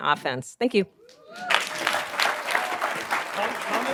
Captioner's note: applause